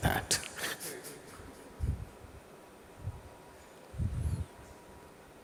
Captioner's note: laughs